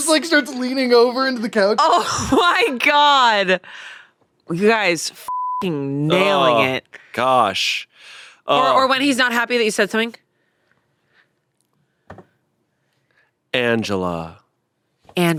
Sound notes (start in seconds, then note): 5.2 beep